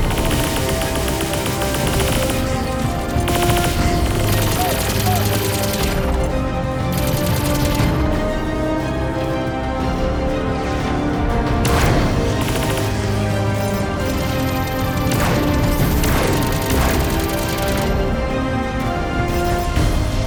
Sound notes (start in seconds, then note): 0.0 guns firing; 12.6 lasers buzzing; 16.6 guns firing